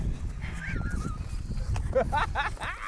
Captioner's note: laughing